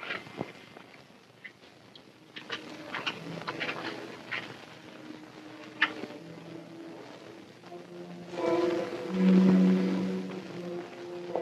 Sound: footsteps

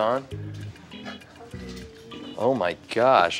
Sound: chuckles

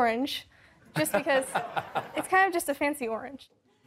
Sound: laughter

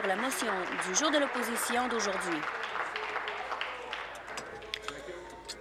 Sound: applause

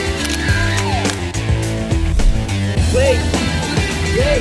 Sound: camera shutter whirring

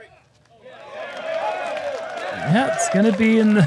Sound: applause

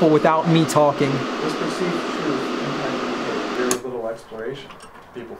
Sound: white noise

